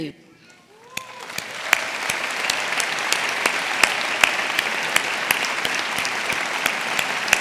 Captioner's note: audience cheering; audience applauding